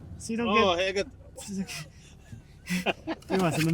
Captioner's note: both laugh